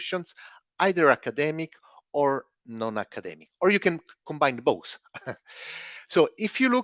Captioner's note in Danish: chuckles